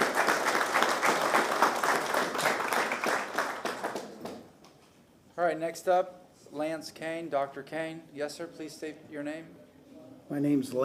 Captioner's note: applause